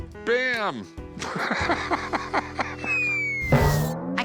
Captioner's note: laughs